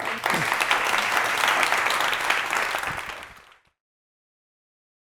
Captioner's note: audience clapping